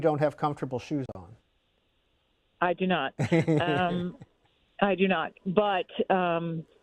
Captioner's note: laughter